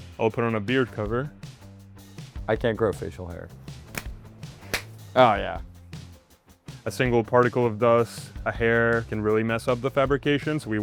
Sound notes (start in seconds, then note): 4.4 gloves slapping